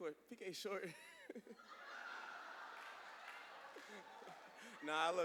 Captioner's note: laughter